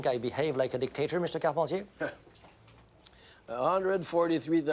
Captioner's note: speaks in foreign language